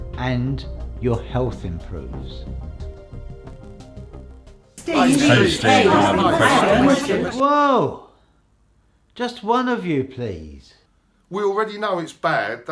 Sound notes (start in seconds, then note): 4.8 everyone speaking in unison